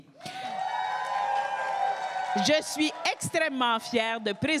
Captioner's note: cris et applaudissements